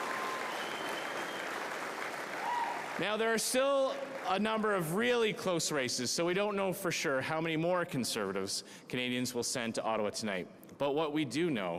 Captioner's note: cheering